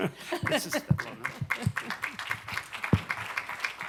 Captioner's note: applause